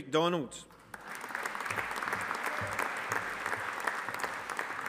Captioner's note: audience applauding